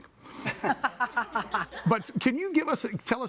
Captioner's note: both laughing